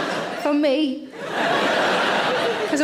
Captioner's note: audience laughing